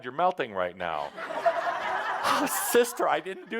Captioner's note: laughter